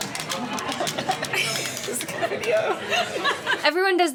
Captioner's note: laughing